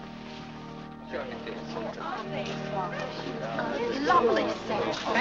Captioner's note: parishioners chatting